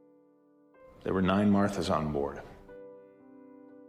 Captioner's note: voiceover